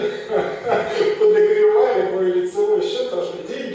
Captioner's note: laughs